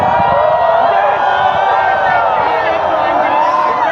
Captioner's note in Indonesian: bersorak